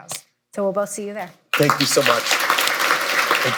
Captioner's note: applause